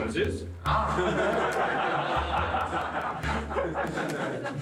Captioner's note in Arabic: يضحك المراسلون